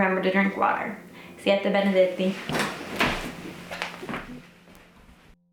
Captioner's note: speaking foreign language